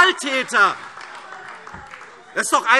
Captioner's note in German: Beifall AfD